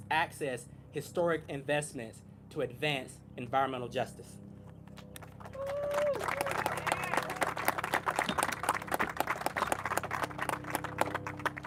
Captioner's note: applause